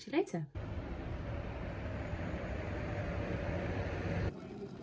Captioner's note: wind and rain sounds; kettle boiling and TV news station in the background